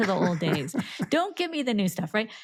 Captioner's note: laughing